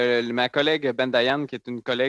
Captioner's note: speaking French